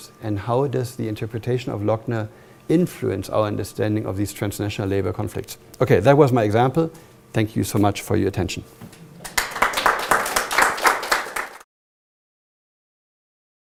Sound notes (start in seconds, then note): 8.8 applause